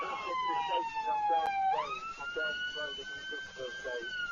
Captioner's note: police radio